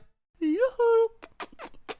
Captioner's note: kissing sounds